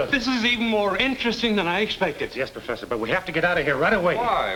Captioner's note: none